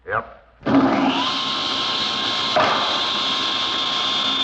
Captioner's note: saw buzzing